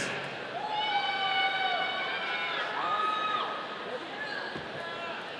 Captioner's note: audience cheering